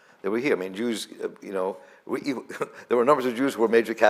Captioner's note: laughs